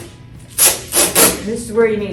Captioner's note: tape ripping sounds